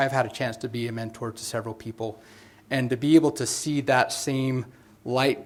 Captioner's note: none